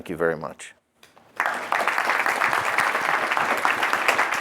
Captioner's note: clapping